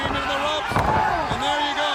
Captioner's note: body thudding; footsteps plodding